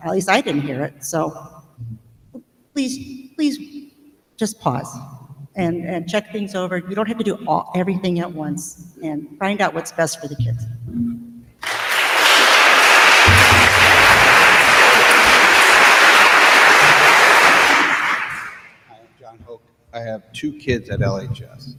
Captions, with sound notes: At least I didn't hear it, so. Please, please just pause and check things over. You don't have to do everything at once, and find out what's best for the kids. (attendees applauding) >>Hi, I'm John Hoke. I have two kids at LHS.